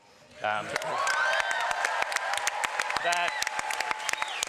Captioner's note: cheering